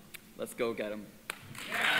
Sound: applause

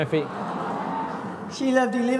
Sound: crowd

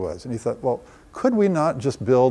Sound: none

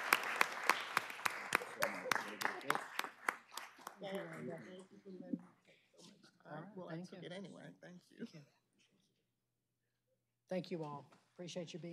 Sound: applause

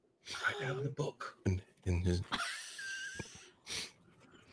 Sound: laughing

